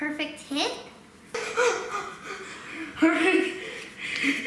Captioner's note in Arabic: يضحك